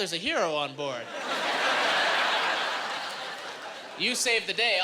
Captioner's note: laughing